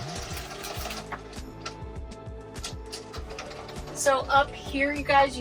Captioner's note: blind rattling